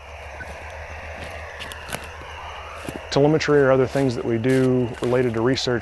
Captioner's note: telemnitry sounds